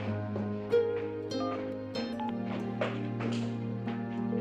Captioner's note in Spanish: Sonido al marcar